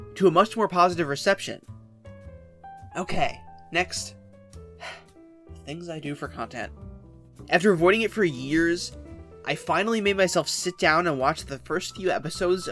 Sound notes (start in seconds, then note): 4.8 sigh